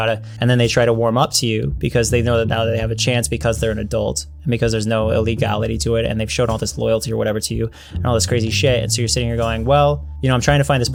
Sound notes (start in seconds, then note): none